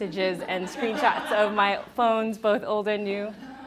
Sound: audience laughs

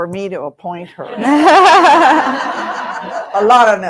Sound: audience laughing

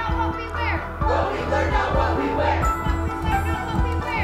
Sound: crowd

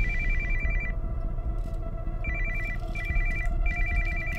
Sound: cell Phone Rings

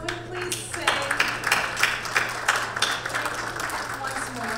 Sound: crowd clapping

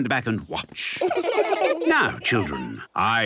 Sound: laughter

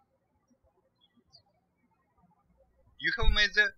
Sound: birds chirping

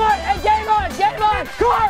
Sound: horn honks

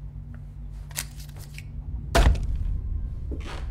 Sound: crinkling; heavy thump

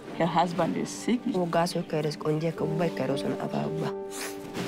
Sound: speaking foreign language

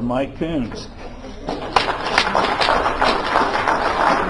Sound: applause

